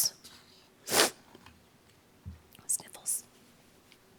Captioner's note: sniffles